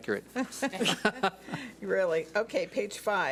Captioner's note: laughs